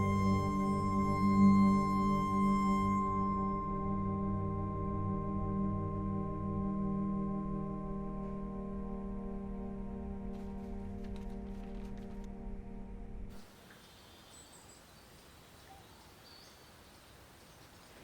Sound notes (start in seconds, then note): 10.4 paper rustling; 13.5 insects chirping